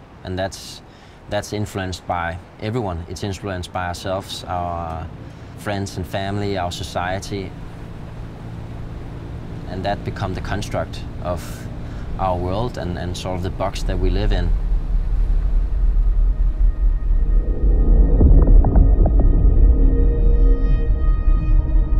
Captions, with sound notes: And that's influenced by everyone. It's influenced by ourselves, our friends and family, our society. [zodiacs hum softly] And that becomes the construct of our world, and sort of the box that we live in. [pensive music]